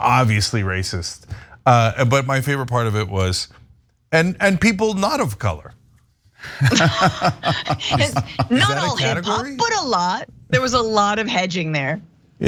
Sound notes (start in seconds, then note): 6.5 laugh